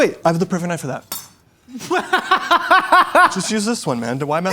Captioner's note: laughs